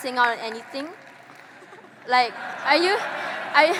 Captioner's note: audience laughing